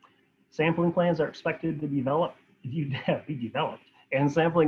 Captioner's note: laughs